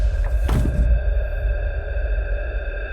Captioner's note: body hits floor